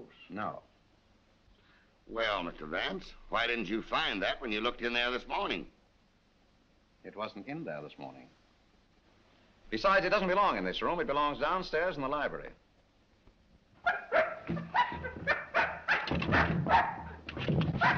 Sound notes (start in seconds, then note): 13.8 barking; 16.0 door rattles